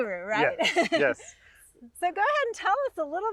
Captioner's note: laughing